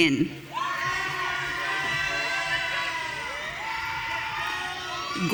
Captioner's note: audience cheering